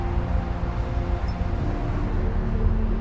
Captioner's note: watch beeps